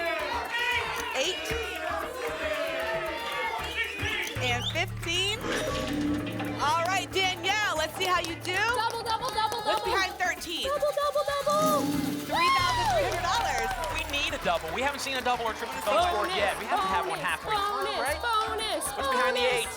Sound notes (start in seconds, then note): 0.7 audience shouting numbers; 5.4 lock sound